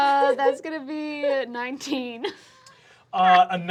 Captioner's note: laughs